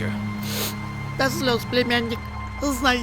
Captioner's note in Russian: шмыгает